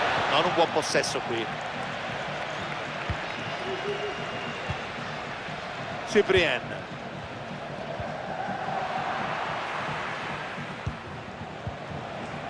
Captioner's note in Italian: Applauso